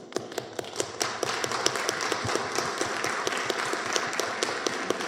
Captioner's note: applause